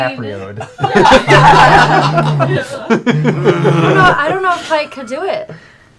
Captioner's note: laughter, bear grunting